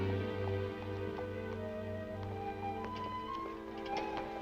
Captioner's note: hooves beating